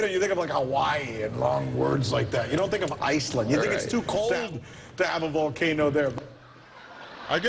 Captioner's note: laughter